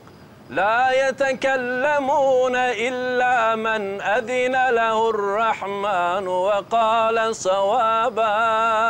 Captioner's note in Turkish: Arapça kuran okunuyor